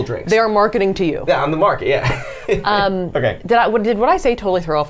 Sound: laughs

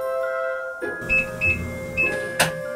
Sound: beeping

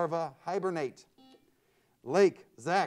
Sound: buzzer sounds

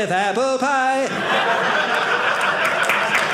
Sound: audience laughing; audience applauding

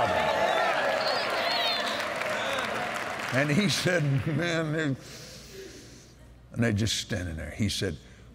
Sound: cheers & Applause

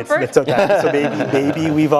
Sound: laugh

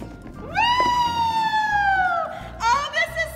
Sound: cheers as she rolls on a scooter

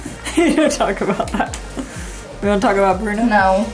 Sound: laughs

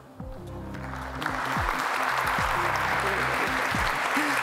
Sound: applause

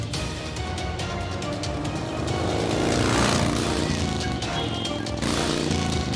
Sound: Owen revs bike, speeds off

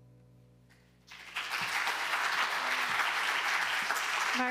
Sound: applause

